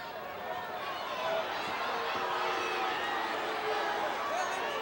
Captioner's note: audience chattering